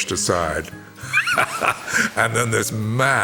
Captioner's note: laughs